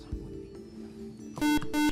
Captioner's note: buzzer